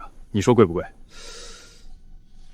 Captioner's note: gasp